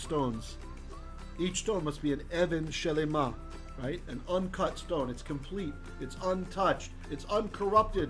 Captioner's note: Hebrew